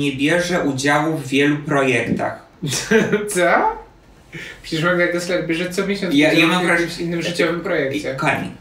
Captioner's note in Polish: śmiech